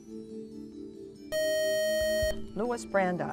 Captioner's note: buzzer